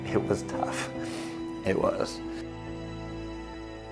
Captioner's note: sniffles